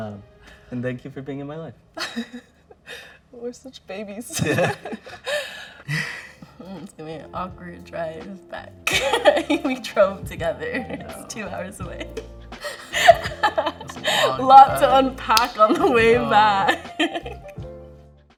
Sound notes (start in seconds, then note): 2.0 laughs; 4.3 both laugh; 5.2 sighs; 8.9 laughs; 12.6 laughs